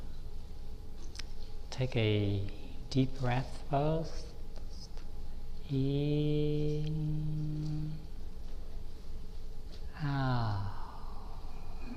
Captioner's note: breathe